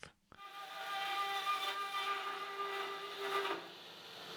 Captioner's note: machine whirring